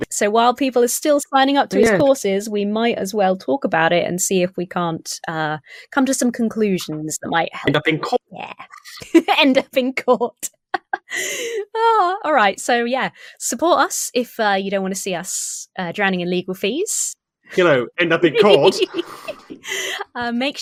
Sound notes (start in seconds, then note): 7.6 laughs; 18.3 laughing